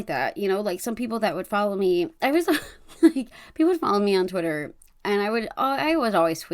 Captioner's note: laughs